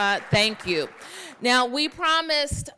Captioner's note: applause